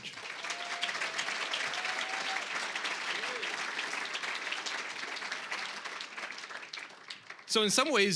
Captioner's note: applause